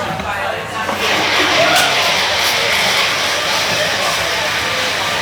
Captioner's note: machines whirring